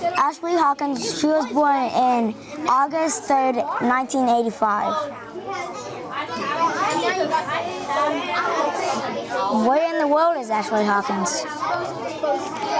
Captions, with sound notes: Ashley Hawkins, she was born in August 3rd, 1985. (students chattering) Where in the world is Ashley Hawkins?